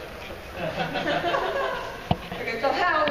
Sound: laughing

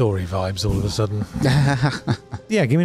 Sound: chuckles

